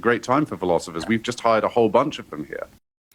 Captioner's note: laughs